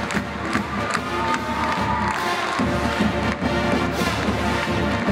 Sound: audience applauds

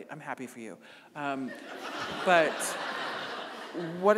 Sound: audience laughing

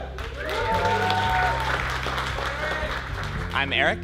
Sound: applause

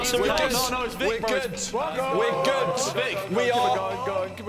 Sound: shouting

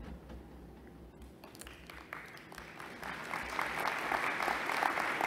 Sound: applause

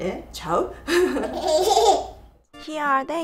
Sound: giggles

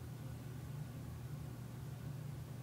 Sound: none

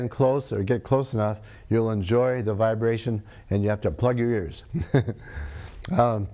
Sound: laughs

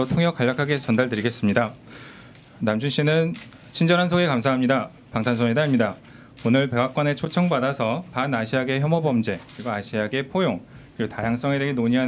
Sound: speaks Korean

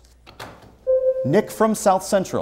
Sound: buzzer sounds

